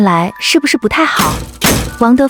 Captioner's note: smashing lock sound